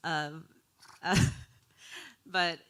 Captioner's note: chuckling